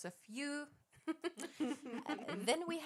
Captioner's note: laughter